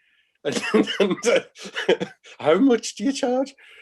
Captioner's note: laughing